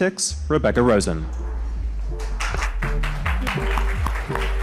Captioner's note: audience clapping